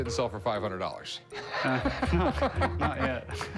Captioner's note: laughs